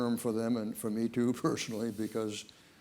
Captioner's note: chuckling